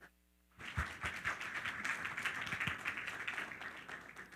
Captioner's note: all applaud